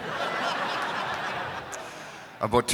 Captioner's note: crowd laughs